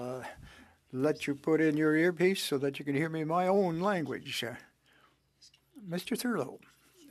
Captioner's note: speaking French